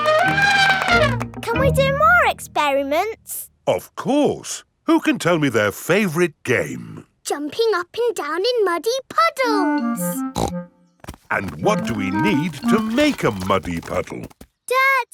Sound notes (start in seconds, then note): 0.0 trumpets; 10.3 snorts